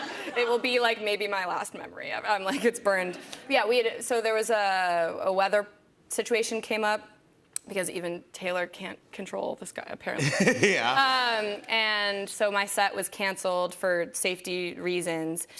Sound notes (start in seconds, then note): 0.0 laughter; 10.2 laughter